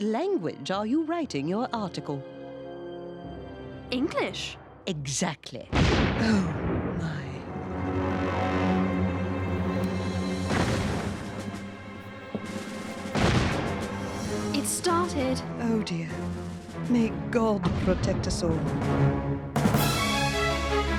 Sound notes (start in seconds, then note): 5.7 cannon booms; 13.1 boom